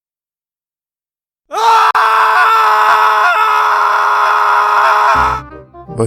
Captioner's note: screams